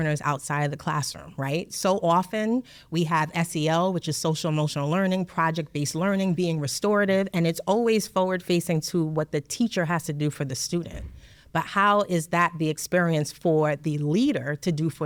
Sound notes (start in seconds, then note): none